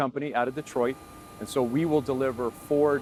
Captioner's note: hydraulics whining